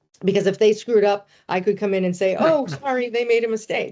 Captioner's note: laughing